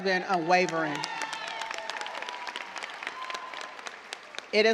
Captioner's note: cheers and applause